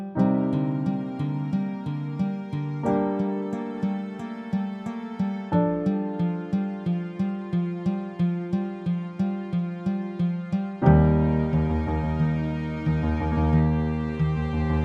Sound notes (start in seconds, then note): none